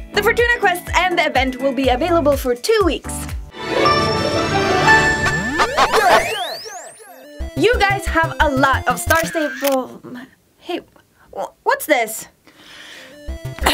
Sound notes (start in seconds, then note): 9.0 camera shutter